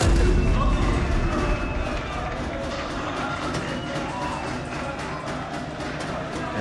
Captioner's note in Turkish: Bağırma sesleri